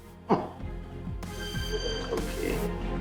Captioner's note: phone ringing